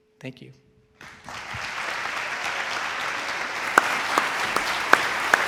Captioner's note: audience applauds